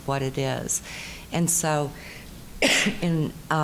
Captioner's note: coughing